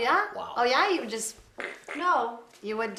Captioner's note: mouth effects